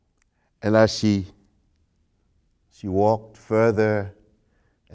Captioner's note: singing stopped